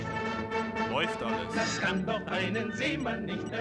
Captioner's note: speaking german